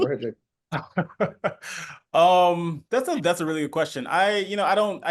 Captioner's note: laughs